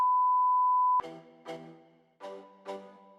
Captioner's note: test beeping; mellow music